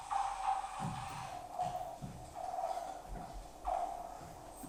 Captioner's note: footsteps thudding